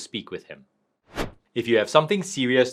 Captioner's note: transition whooshing